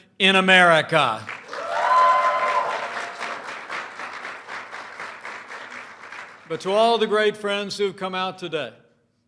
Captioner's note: applause